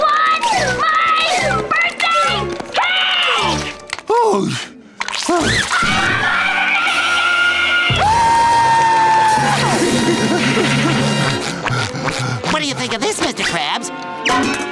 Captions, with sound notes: I. Want. My. Birthday. Cake! [groaning] I want my birthday cake! [screaming] What do you think of this, Mister Krabs?